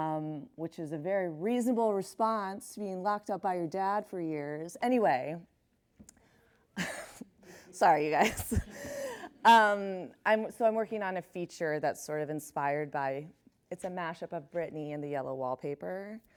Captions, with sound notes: which is a very reasonable response to being locked up by your dad for years. Anyway, [chuckles] sorry, you guys. So I'm working on a feature that's sort of inspired by-- it's a mash-up of Britney and the "Yellow Wallpaper,"